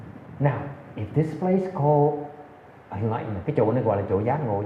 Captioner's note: none